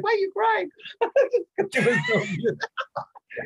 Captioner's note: chuckling